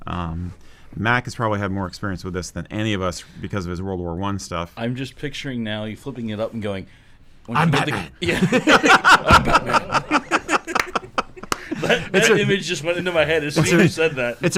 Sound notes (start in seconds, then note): 10.7 laughter